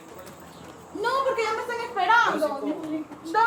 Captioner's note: woman shouting in Spanish